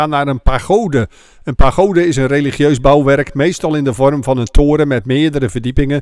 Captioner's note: voiceover